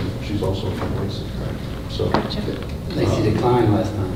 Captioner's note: whispering